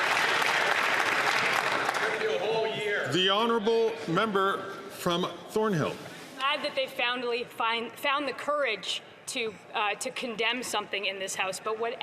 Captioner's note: some Applause